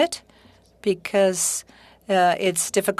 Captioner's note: speaking French